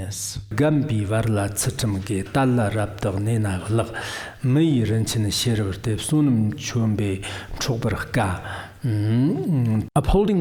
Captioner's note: giving oral transmission in Tibetan